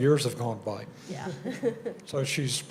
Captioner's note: chuckles